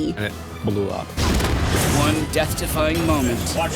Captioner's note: explosion